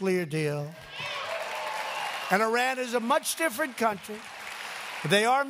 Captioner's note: applause